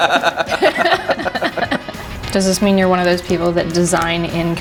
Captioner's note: laughing